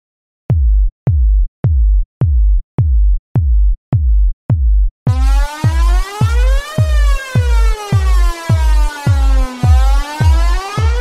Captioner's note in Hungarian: Dob lüktetése és szirénahang